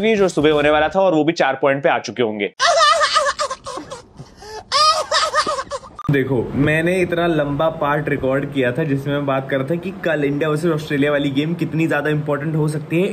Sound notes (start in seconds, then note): 2.6 laughing